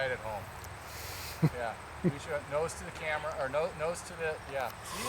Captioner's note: chuckling